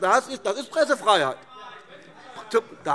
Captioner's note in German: Zuruf: Das ist doch keine Pressefreiheit! - Weitere Zurufe